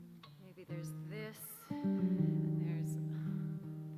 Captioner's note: groans